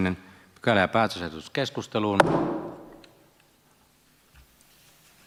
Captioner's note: Nuijan kopautus